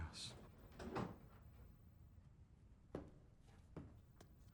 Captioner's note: door opening